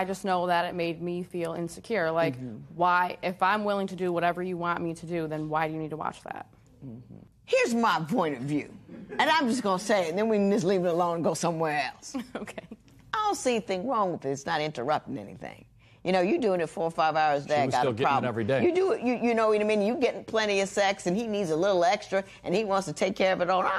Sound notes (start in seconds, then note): 12.2 chuckles